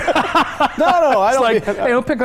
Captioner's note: laughing